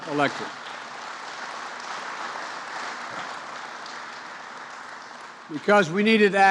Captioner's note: applause